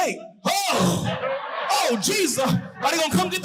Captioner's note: audience hooting